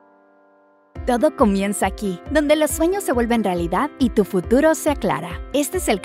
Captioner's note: speaking in foreign language